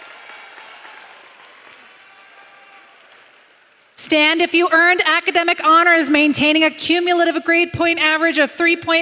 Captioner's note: applause